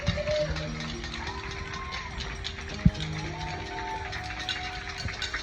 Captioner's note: people clapping and cheering